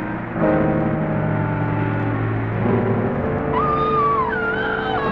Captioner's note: Rosina screaming